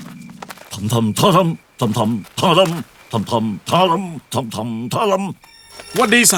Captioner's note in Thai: ฮัมเพลงสายลับ